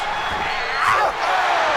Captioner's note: Sting snarling